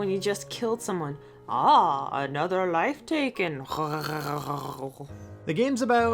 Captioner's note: gurgles